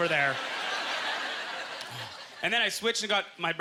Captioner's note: audience chuckling